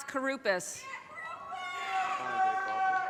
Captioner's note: audience cheers and applause